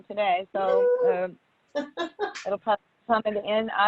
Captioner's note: laughs